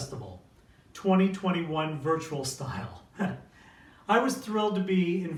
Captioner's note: chuckling